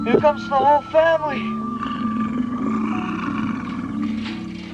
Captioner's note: roaring